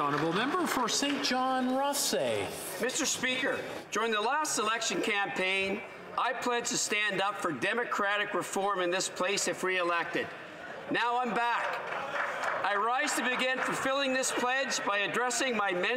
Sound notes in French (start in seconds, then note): 7.3 voix de l'interprète